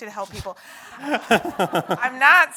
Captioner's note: audience laughs